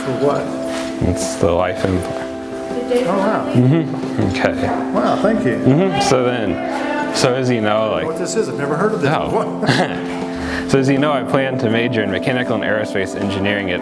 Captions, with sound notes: - For what? - It's the Life. - Oh wow. - Mm-hmm. Mm-kay. - Wow, thank you. - Mm-hmm. So then, so as you know-- - I don't know what this is. I've never heard of it before. - Oh. (laughs) So as you know I plan to major in mechanical and aerospace engineering